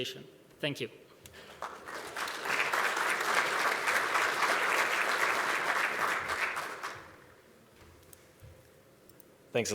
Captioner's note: applause